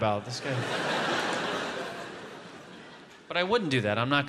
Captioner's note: audience laughs